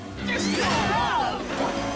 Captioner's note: screaming